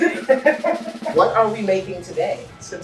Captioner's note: laughing